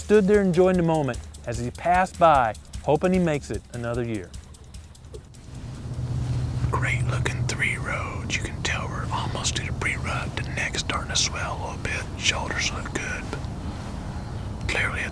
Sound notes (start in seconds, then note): 5.2 whispering